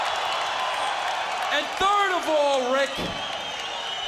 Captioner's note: crowd cheering